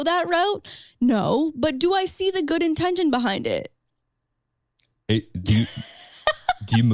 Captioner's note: laughs